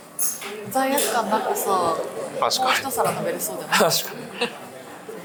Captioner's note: laughs